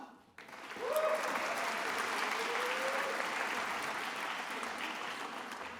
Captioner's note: attendees applauding